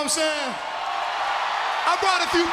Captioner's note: crowd cheering